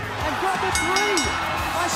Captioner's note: bell ringing